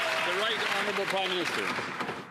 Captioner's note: applause